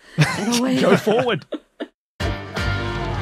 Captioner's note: group chuckling